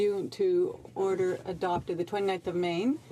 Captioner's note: speaking in french